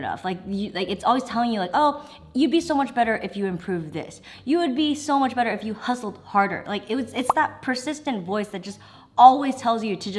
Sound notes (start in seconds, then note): none